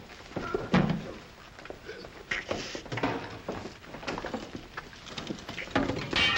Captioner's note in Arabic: أصوات النضال; تحطم المصباح